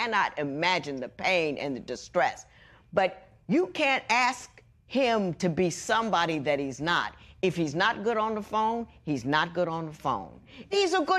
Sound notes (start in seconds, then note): none